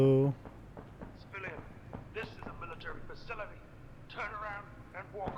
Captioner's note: intercom